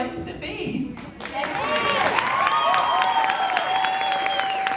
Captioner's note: audience applauds